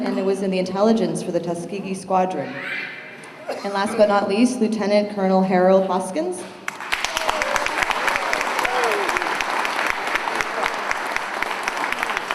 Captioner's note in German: Beifall